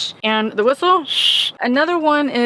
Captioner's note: blows whistle